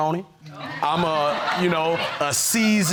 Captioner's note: audience laughing